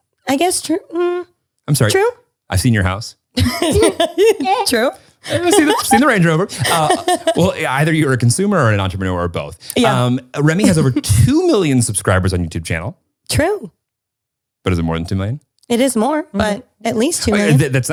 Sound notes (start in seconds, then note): 3.4 laughing; 6.9 giggling